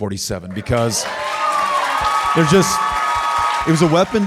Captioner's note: audience cheering and applauding